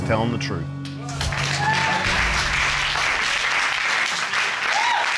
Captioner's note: audience cheering and applauding